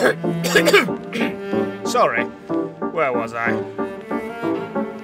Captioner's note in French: tousse